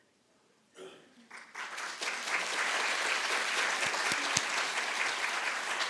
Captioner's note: audience applauding